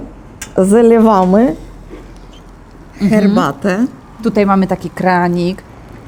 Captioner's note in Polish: szum wody